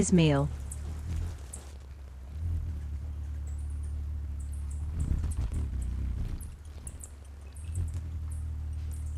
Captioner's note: birds chirping; bird's wing flapping